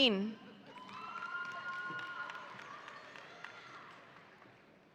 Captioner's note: audience applauding